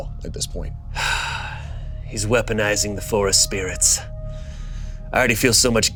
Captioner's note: sighs